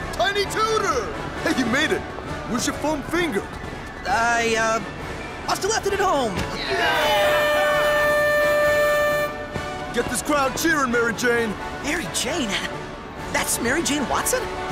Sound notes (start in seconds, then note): 6.7 air horn wailing